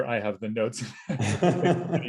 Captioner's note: laughter